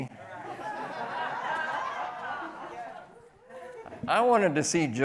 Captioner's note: people laughing